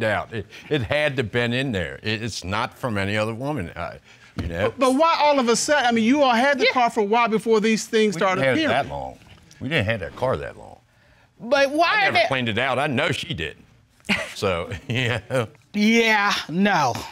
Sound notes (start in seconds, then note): 13.8 scoffs